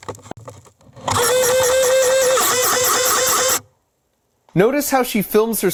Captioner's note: machine spraying noise